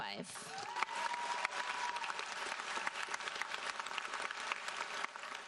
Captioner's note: audience cheers and applauds